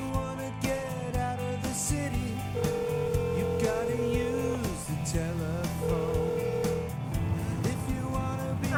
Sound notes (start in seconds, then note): 2.2 phone ringing